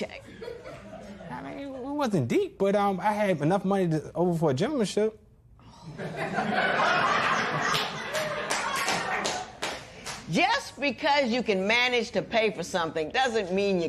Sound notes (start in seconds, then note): 0.2 laughter; 5.9 laughter; 7.6 clapping